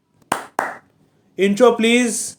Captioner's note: claps